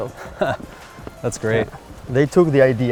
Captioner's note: laughs